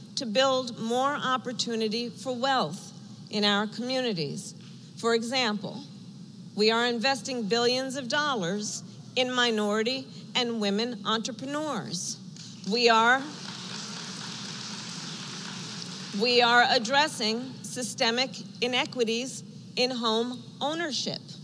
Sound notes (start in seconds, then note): 13.1 applause